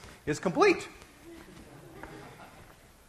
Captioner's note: class laughing